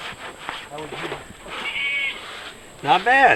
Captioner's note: goat bleating nearby